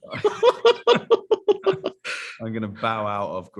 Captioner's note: group laughs